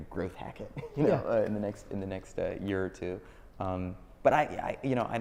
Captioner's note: laughs